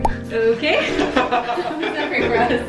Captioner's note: laughs